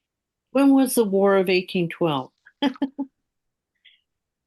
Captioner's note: laughing